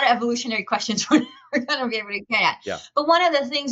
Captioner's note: chuckles